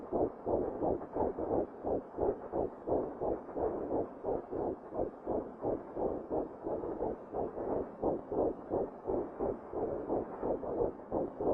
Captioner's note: heart beat